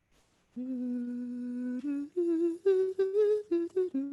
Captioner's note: humming